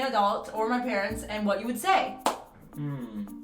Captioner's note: claps